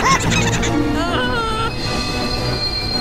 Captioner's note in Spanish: Vagones riéndose; gime